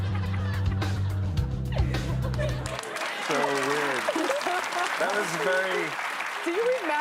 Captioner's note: laughter